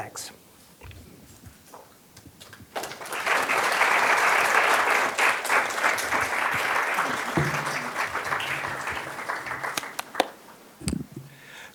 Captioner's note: applause